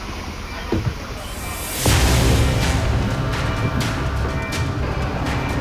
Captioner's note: footsteps thumping; suspenseful music